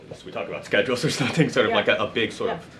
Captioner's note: laughs